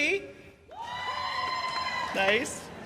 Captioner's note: cheers and applause